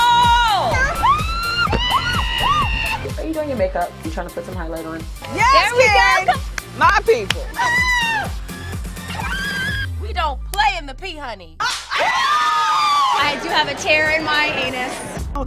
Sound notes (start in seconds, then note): 0.0 screaming; 9.0 screaming